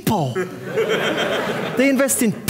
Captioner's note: audience laughing